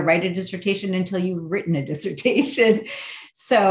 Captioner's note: laughing